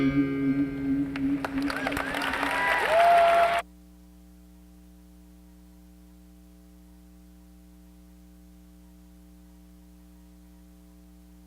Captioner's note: applause